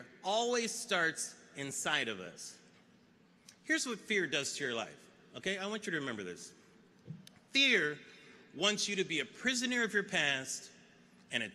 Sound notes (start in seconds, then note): none